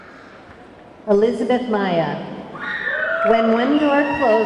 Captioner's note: audience clamoring